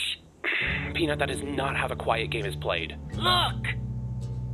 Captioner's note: sighs